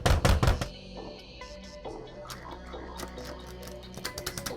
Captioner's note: fist pounding